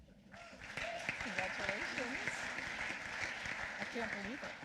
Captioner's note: applause